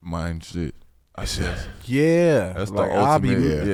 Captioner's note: sighs